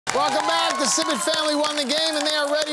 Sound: cheering

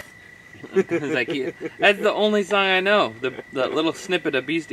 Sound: laughs

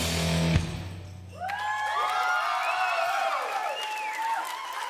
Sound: audience cheers

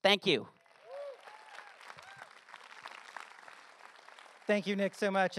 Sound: audience applause

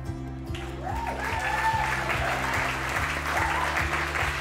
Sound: people cheering

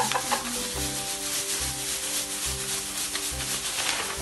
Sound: laughs; pom Poms shaking

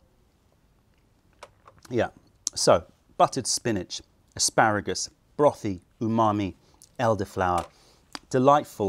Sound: sips tea

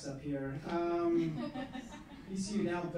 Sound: laughing

